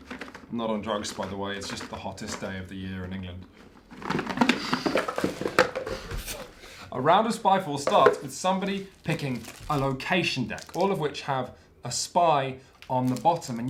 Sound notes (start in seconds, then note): 3.9 box rattles more intensely!